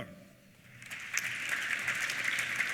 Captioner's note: applause